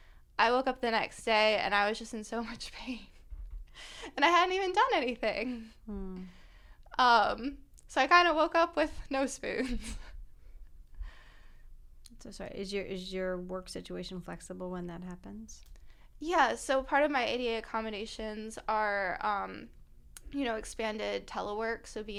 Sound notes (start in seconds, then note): 9.6 laughter